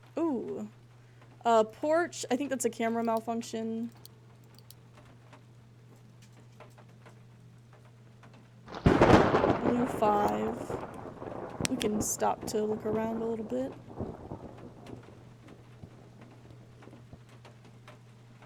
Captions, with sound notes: Ooh. Uh, Porch. I think that's a camera malfunction. [Thunder] Blue 5. We can stop to look around a little bit.